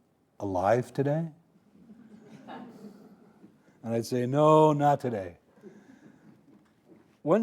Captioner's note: audience laughing